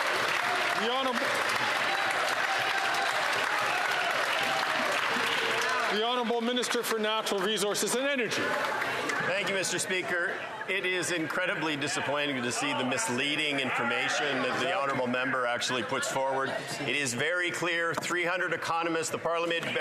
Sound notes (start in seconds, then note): 3.9 some Applause